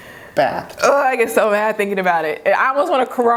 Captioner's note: groans